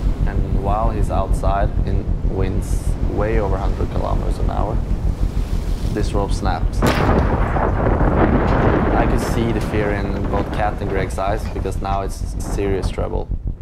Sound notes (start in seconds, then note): 6.6 loud bang